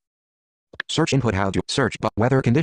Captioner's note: voiceover